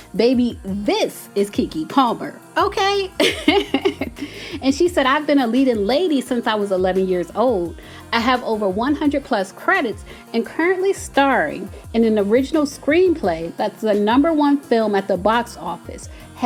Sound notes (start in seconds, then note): 3.2 laughter